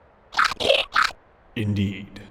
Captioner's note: Bahro cheer